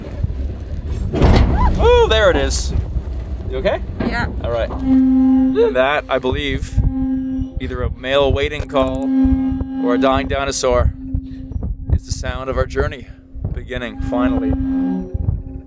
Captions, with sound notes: (bang) Ah! - Oh, there it is! Are you okay? - Yeah. - All right. (loud squealing) And that, I believe, either a male waiting call. Or a dying dinosaur. It's the sound of our journey beginning, finally.